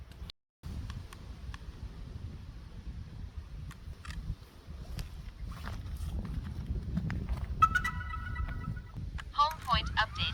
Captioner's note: booting sound